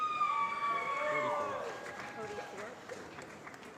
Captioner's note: applause